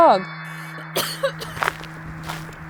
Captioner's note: tousse